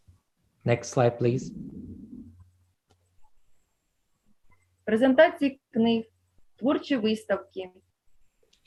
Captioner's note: foreign Language